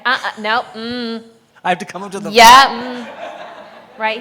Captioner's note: chuckling